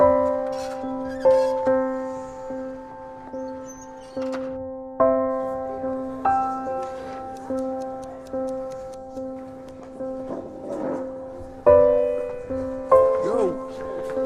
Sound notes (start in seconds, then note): 0.0 door squeaking; 7.2 ticking; 10.2 chair scratches